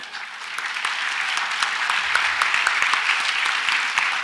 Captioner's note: audience applauds